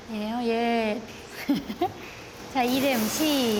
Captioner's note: laughs